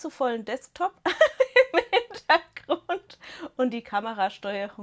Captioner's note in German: Gelächter